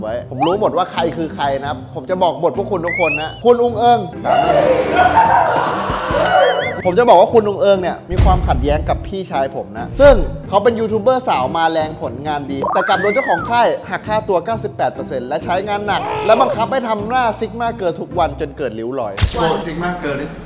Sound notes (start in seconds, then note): 4.2 screams; 4.2 yells